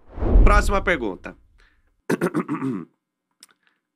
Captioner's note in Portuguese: pigarreia